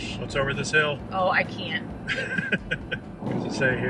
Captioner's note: giggles